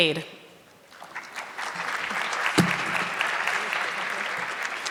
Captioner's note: audience clapping